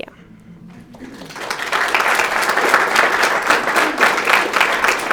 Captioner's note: audience clapping